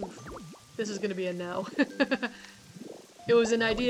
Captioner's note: laughs